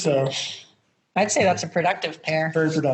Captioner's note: both Laugh